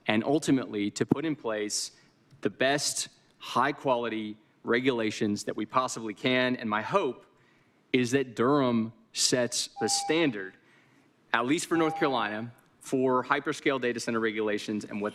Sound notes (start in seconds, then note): 11.7 beep